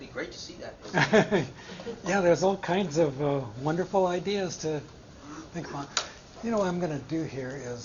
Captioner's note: chuckle